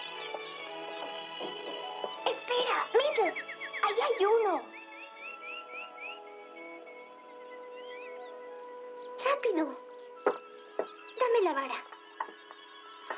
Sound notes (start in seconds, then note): 5.2 twittering